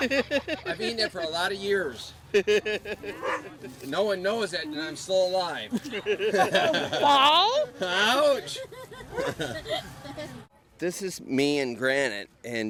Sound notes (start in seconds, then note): 8.5 laughs